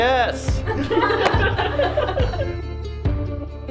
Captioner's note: laughing